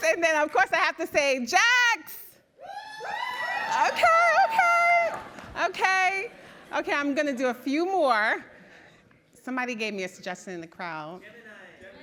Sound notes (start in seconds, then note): 2.6 subdued cheering